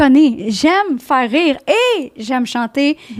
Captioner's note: in french